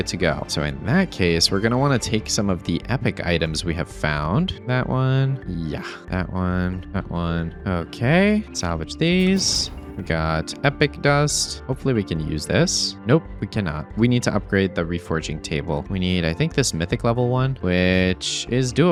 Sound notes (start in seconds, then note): none